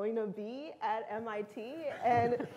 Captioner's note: laughter